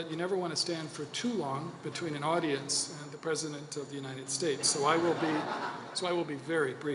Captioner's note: laughter